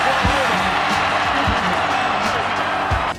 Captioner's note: cheering